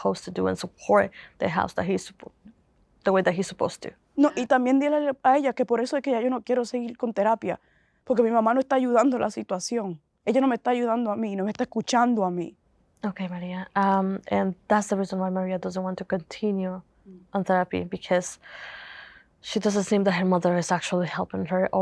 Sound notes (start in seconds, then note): 4.4 Spanish